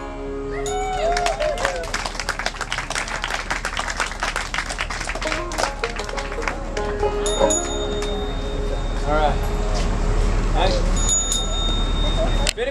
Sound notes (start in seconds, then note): 1.0 crowd cheering and applauding; 7.1 bell chiming